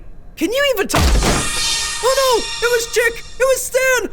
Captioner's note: door slams